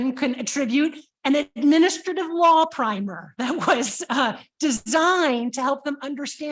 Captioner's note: chuckles